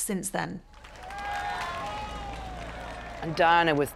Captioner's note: crowd cheering